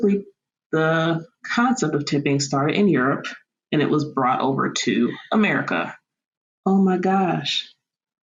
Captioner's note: Sarcastic